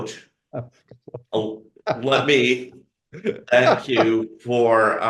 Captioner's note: laughs